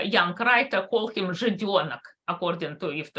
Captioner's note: speaks in Russian